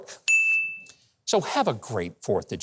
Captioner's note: mouse clicking; bell dinging